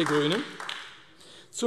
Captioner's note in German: Beifall AfD